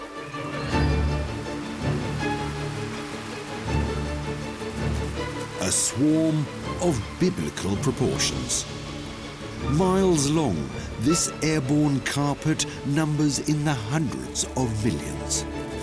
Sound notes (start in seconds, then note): 1.7 faint buzzing